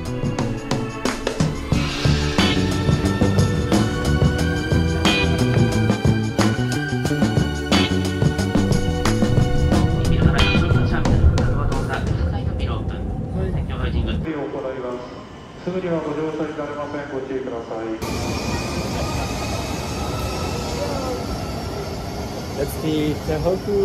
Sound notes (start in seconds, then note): 10.7 train announcement